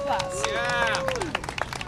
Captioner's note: cheering and applause